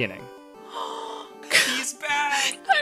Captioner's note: gasp